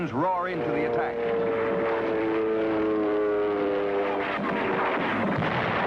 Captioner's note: plane engine roaring